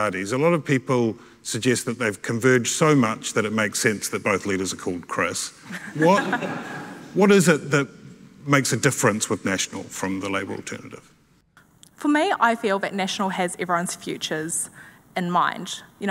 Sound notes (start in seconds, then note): 5.6 laughing; 5.7 audience laughing